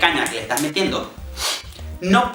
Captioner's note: sniffs